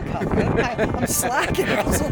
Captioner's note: laughing